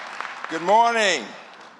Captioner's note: applause